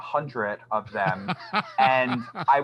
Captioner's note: laughs